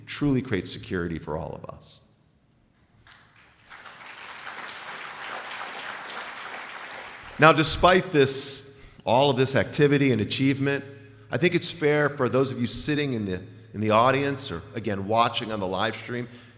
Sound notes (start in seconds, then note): 6.1 applause